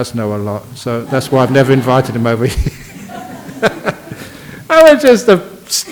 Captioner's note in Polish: śmiech